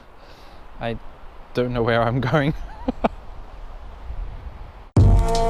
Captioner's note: laughs